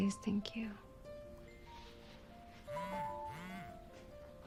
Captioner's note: phone chimes, vibrates